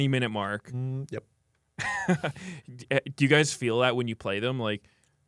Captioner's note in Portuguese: risos